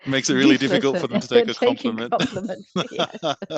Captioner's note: laughs